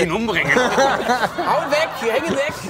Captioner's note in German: Gelächter